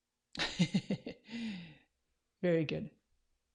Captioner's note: laughs